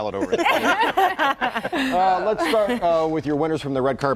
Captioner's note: laughter